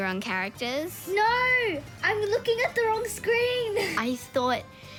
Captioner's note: laughs